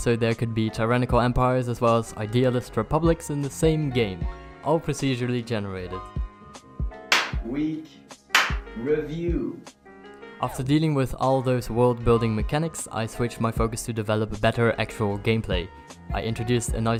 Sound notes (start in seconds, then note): 8.3 clap